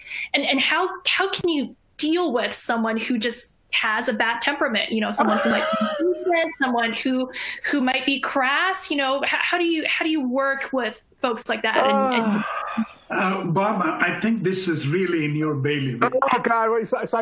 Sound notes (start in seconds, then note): 5.2 laughter